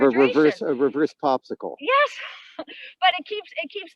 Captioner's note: laughs